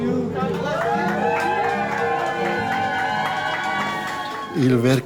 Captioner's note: staff cheering